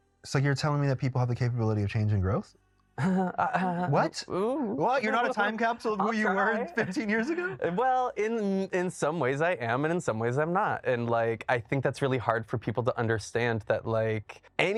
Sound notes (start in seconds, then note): 3.0 chuckles